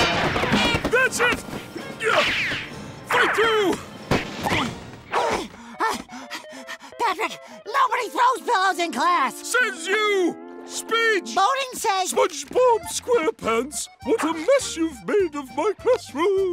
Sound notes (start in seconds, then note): 1.4 grunting; 5.4 panting